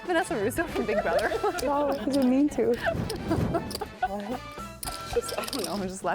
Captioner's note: laughing